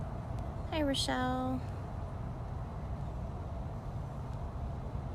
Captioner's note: wind